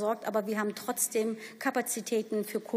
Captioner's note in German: none